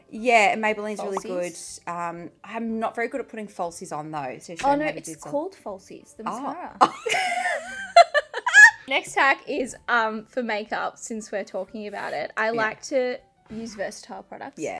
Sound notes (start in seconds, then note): 7.0 laughing